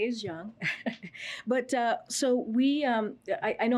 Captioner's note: laughs